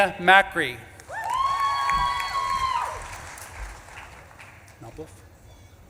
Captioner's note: audience claps and cheers